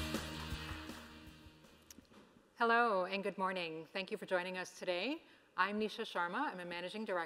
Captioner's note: applause